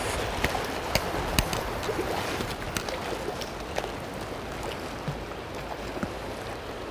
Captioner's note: sound of water running and rain falling